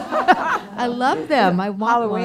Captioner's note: laughter